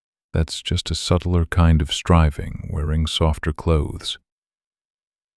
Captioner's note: soft voice